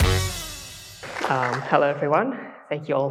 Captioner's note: applause